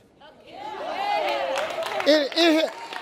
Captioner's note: audience laughs